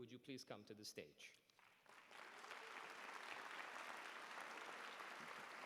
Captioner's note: applause